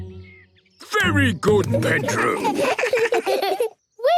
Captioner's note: children giggle